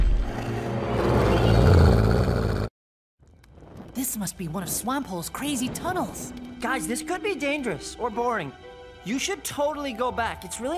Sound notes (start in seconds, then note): 0.2 growling